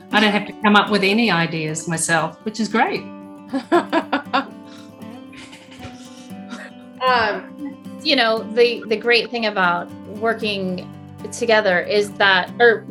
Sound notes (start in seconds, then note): 3.5 laughs; 5.6 cheerful guitar music